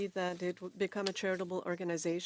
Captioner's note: speaking French